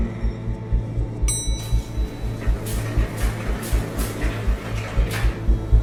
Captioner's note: elevator doors rumbling; bell ringing